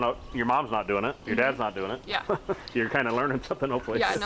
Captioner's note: chuckles